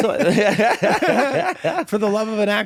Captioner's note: guys laughing